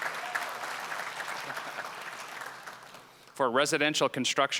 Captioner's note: applause